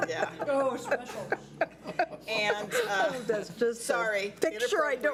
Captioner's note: laughs